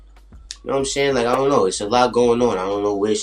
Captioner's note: phone pops